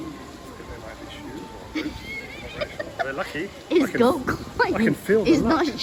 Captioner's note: laughing